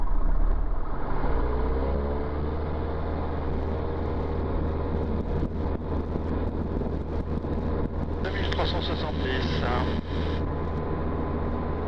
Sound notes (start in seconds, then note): 8.2 engine speed